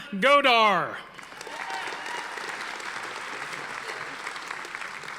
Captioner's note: audience applauding